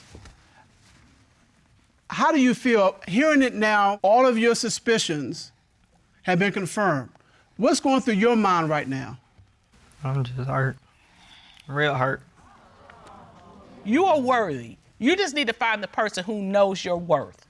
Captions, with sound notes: How do you feel, hearing it now, all of your suspicions... have been confirmed. What's going through your mind right now? I'm just hurt. Real hurt. -[audience exclaiming] -You are worthy. You just need to find the person who knows your worth.